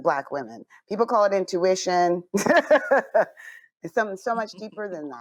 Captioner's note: laughs